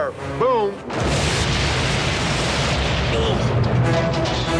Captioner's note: steam train explodes; dramatic music